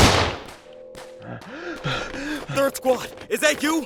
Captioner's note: gun shot; panting